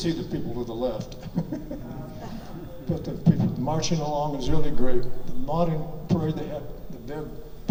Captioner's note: laughing